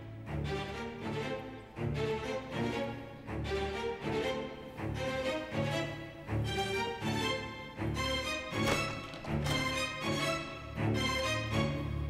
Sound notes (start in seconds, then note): 8.6 sound of door opening